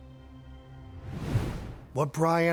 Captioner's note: air whooshing